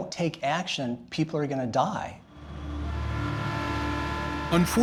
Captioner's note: horn blaring